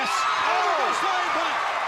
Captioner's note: crowd cheering